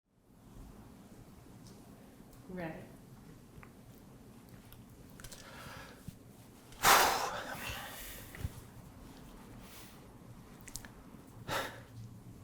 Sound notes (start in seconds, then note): 6.9 sighs